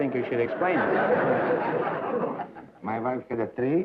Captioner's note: laughter